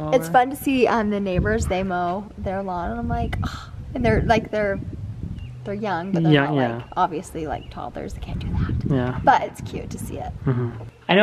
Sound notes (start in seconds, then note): 3.7 gasps